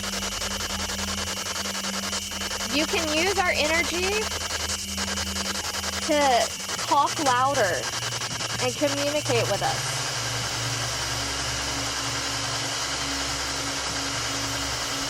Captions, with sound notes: (fast static pulsing) - You can use our energy to cough louder and communicate with us. (stable static signaling)